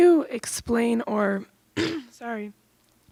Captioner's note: coughs